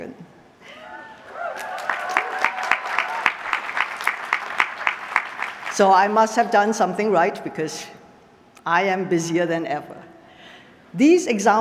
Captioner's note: applause